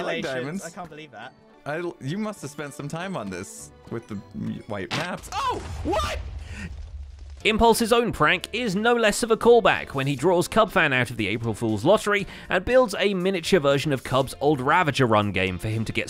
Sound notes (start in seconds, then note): 5.2 explosion; 6.3 shouting